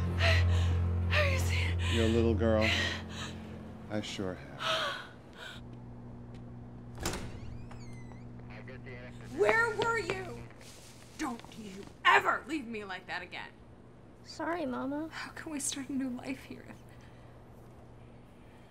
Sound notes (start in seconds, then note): 0.0 yelps; 6.9 door opening